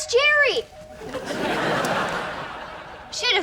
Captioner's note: laughs